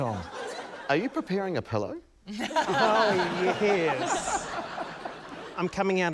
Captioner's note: laughter